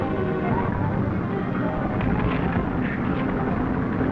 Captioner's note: train rumbling